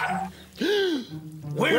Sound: gasp!

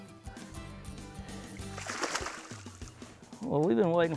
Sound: fish splashing

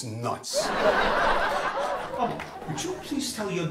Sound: audience laughs

